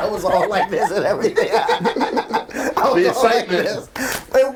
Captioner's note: all laughing